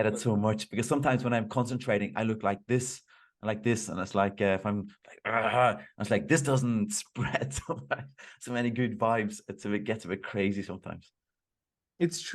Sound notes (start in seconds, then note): 5.4 growling